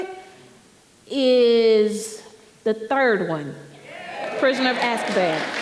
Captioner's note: audience cheering